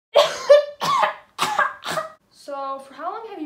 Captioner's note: incontrollable coughing